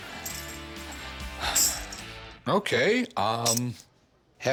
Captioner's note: sighs